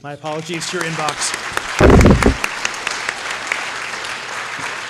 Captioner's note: applause